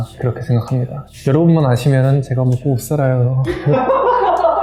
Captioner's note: laugh